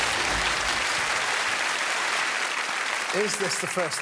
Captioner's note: applause